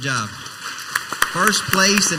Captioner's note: crowd applauds